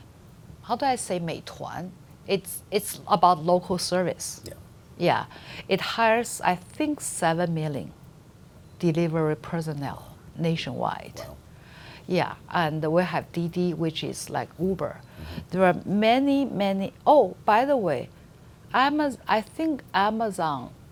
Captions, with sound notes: how do I say (speaks foreign language)? It's about local service, yeah. It hires I think 7 million delivery personnel nationwide. And we have DiDi, which is like Uber. There are many, many, oh by the way, I think Amazon